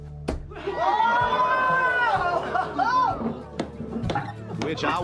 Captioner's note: crowd cheers